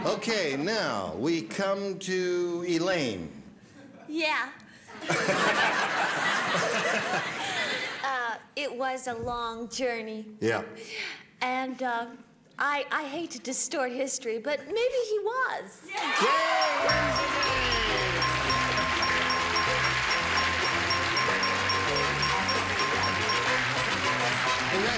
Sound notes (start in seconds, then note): 4.9 laughter; 18.1 cheers and applause, bell dinging; 21.3 upbeat music